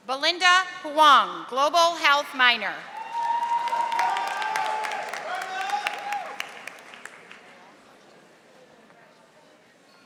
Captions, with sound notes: Belinda Huang, Global Health minor. (audience applauding)